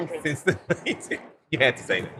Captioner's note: laughing